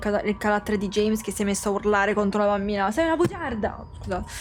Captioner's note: bonks microphone